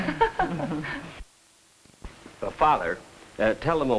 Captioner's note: group laughs